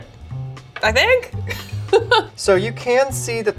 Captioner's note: laughs